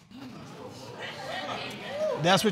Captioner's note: audience murmuring